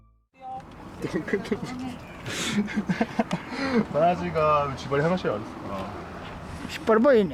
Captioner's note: laughs